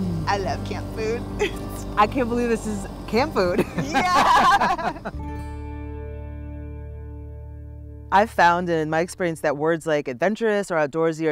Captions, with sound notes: Ooooh, I love camp food. - I can't believe this is camp food. - Yeah (both laughing). I found, in my experience, that words like adventurous, or outdoorsy,